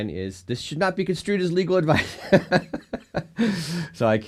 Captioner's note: laughs